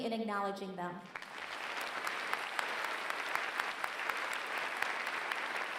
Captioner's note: applause